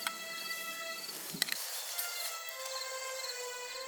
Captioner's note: footsteps stop